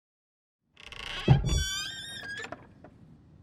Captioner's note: lid creaks